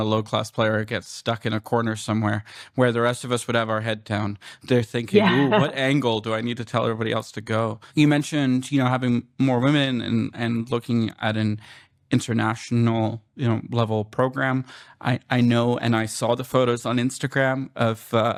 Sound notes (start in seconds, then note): 5.1 laughter